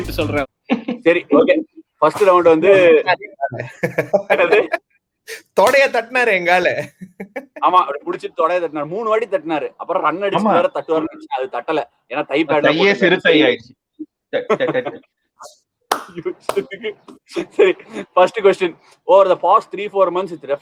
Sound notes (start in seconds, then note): 14.4 laughs